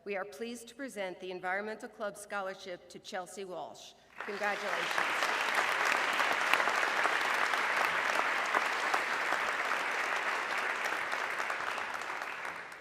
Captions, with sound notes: we are pleased to present the Environmental Club Scholarship to Chelsea Walsh, congratulations. (audience clapping)